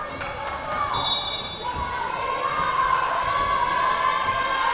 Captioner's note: whistle blowing